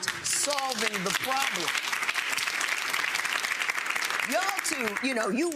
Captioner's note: audience clapping